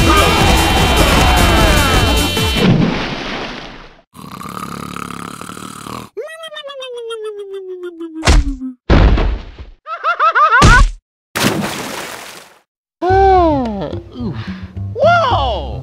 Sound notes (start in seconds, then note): 2.5 splash; 4.1 snoring